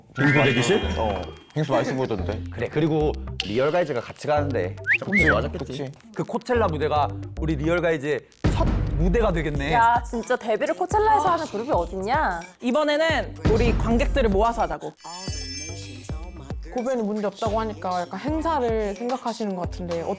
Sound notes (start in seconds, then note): 0.1 positive sound effect; 4.8 sound effect: agreement